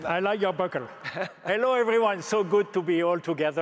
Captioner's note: laughs